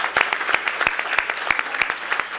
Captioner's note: applause